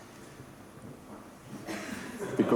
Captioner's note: laughter